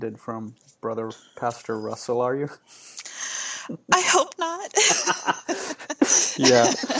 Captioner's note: laughing